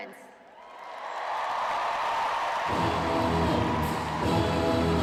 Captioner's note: cheering; marching band music